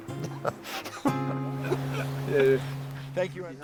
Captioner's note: laughter